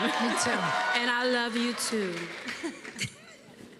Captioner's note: cheers and applause